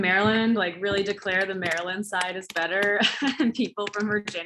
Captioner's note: laughs